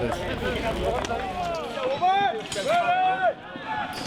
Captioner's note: shouting